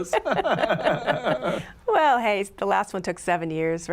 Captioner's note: laughter